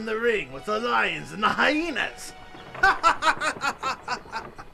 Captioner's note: risas